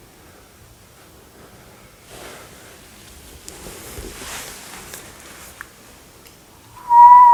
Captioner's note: whistling to see if it can provoke any reaction